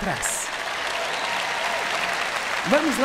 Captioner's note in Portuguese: plateia aplaudindo